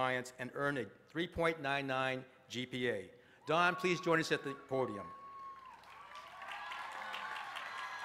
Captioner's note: applause